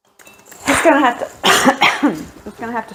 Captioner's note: cough